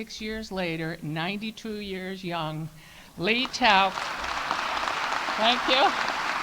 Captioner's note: audience applauding